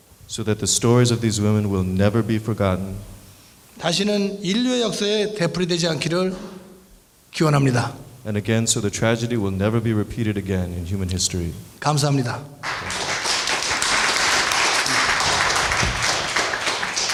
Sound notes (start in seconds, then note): 3.9 speaking in foreign language; 12.0 speaking in foreign language; 12.6 applause